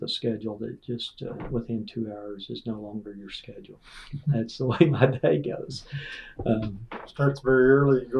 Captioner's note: laughter